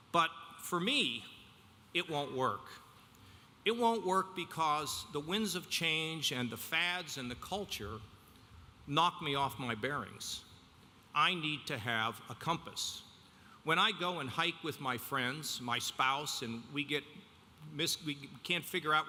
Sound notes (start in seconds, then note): none